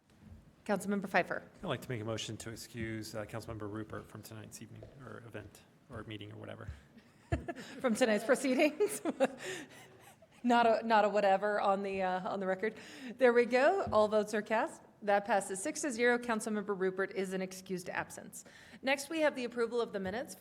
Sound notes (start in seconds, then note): 7.0 laughter